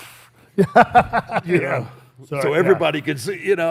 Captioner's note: laughs